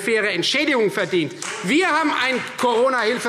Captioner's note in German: Beifall Freie Demokraten